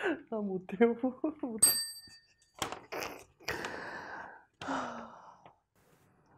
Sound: chime

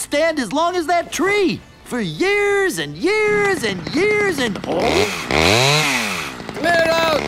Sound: whirring

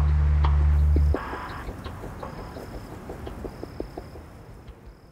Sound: ζουζούνισμα εντόμων

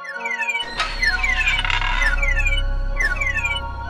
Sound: security Alarm Ringing

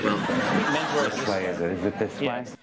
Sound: audience laughs

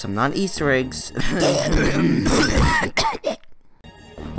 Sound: violent coughing

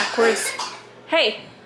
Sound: coughing

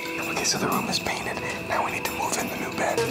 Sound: whispering

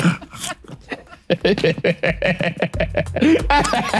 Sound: laughs

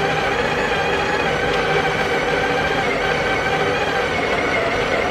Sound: coffee machine beatbox

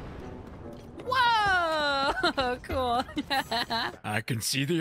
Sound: laughing

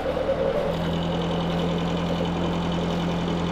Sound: engine revving

